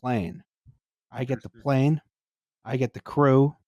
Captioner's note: chuckles